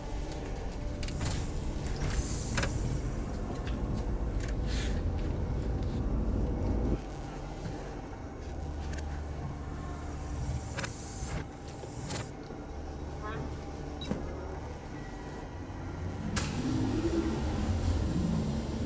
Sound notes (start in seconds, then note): 8.5 machine beeping and buzzing; 16.1 machine turning on